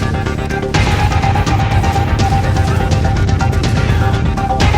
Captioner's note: in-game sound effects